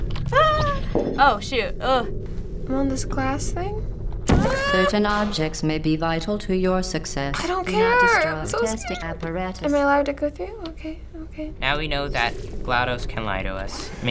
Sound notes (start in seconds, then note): 4.2 zaps gun; 4.3 anxious groan